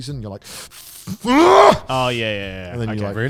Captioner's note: screams